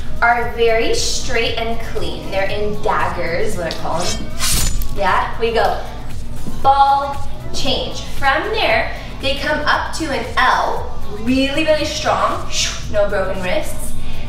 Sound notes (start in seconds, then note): 3.7 slicing